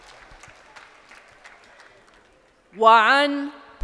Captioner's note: crowd applauding